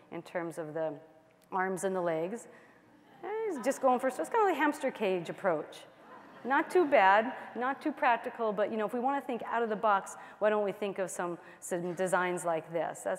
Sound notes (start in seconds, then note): 6.0 laughter